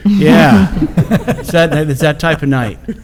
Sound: laughing

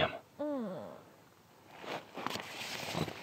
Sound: moaning

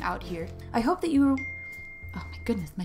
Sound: ding!

